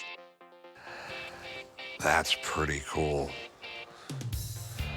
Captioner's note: exhales